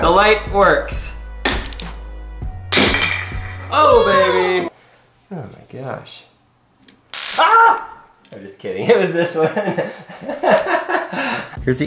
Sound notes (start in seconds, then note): 2.7 hammering; 7.2 screaming; 9.3 laughing